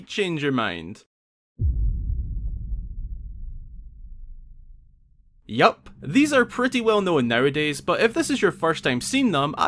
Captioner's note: boom